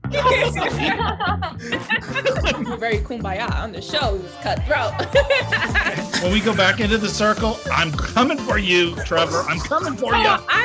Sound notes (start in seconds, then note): 0.1 everyone laughs; 4.7 laughs